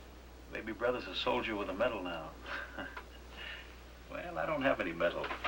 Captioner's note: chuckles